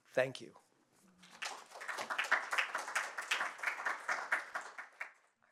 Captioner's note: applause